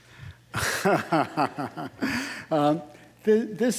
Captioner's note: laughing